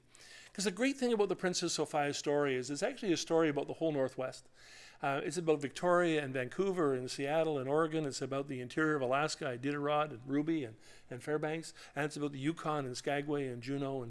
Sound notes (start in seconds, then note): none